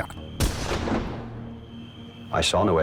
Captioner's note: gunshot